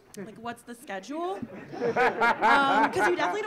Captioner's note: audience laughing